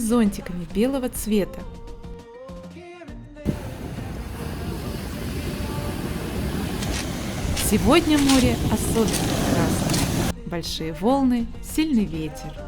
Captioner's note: surf noise